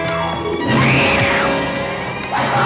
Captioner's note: screaming